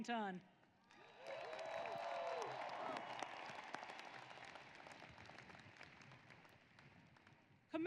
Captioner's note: applause